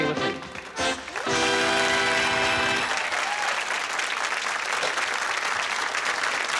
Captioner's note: applause